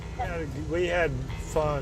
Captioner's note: laughs